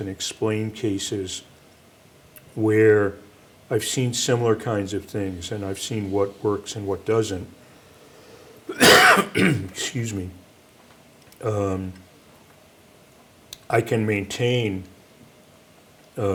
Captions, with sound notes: and explain cases where I've seen similar kinds of things, and I've seen what works and what doesn't... (coughs) Excuse me. I can maintain